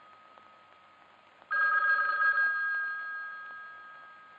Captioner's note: phone ringing